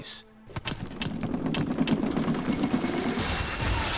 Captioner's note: opening Chests with duping sound